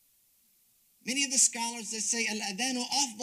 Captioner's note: speaks Arabic